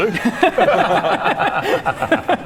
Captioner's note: easy laughter